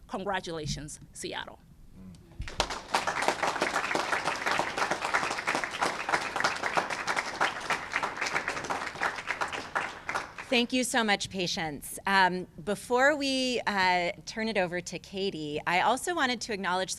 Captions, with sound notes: Congratulations, Seattle. [ Applause ] -Thank you so much, Patience. Before we turn it over to Katie, I also wanted to acknowledge